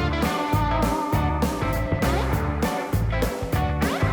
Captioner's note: none